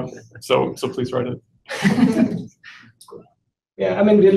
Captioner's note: laughter